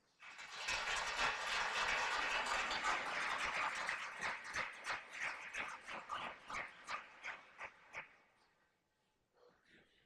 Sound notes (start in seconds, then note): 0.0 applause; 7.7 silence